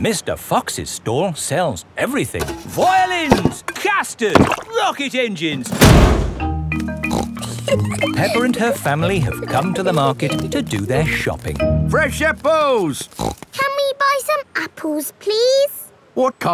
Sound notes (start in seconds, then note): 7.0 snorts and giggles; 13.1 snorts